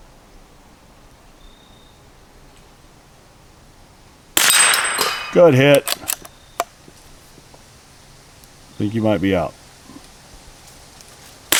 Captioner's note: gunshot